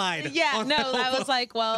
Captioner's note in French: laughter